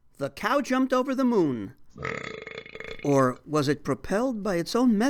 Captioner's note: belch